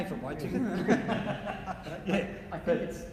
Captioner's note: laughing